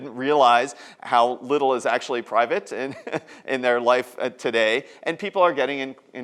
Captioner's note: laughs